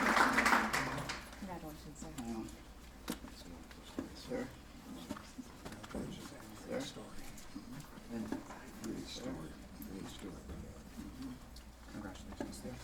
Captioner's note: applause; background conversations